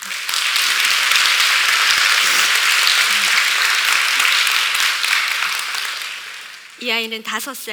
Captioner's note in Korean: 박수